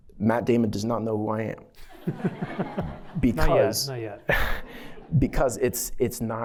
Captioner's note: laughter